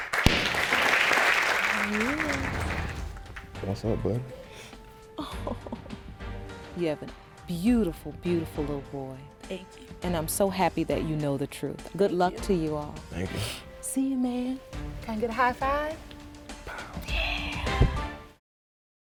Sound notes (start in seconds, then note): 0.0 audience applauding; 5.1 laughs